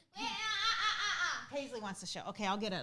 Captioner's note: moans